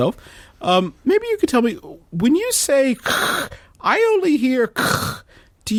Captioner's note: static